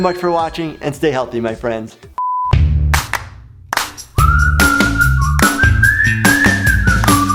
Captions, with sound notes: for watching, and stay healthy my friends. (transition tone) (upbeat whistling music)